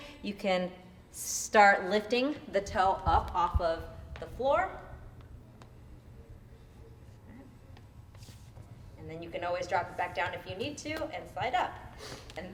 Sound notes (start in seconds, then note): none